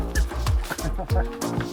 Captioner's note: laughing